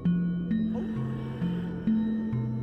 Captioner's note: wolf howls